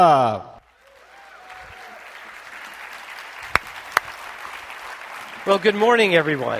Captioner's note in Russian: бурные овации